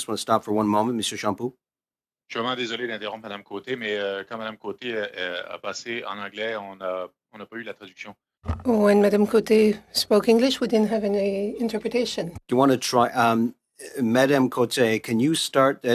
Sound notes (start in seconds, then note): 8.2 speaking French